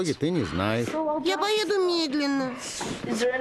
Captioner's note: sighs